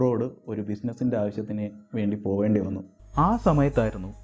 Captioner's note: none